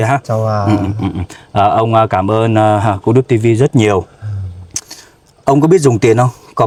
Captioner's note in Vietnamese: hắng giọng